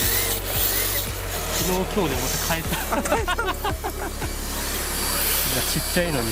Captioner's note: laughs